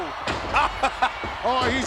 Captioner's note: laughing